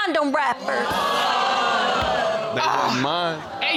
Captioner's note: audience exclaims